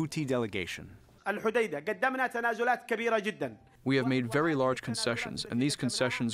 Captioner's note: through translator